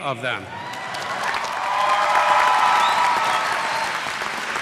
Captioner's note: cheers; applause